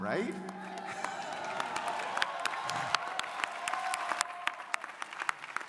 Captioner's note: crowd applauding